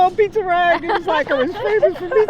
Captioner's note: laughter